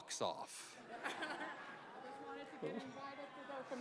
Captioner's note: laughing